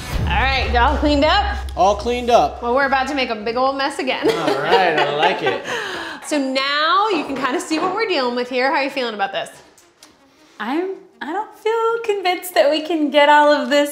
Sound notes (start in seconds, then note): 4.2 laughs